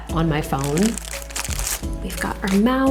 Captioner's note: plastic crinkles